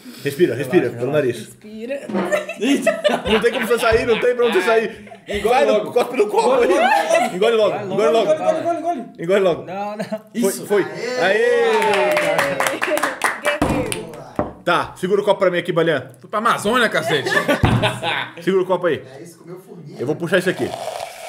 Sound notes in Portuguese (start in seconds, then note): 11.6 palmas; 17.0 risos